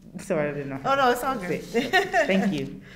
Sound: laughs

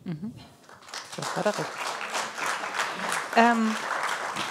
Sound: applause

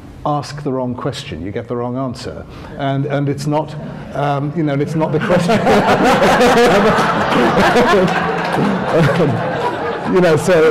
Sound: laughter

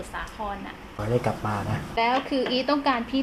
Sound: murmur

